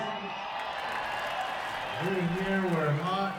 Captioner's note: crowd cheers and applauds